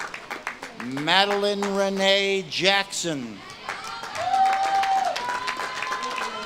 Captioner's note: audience claps and cheers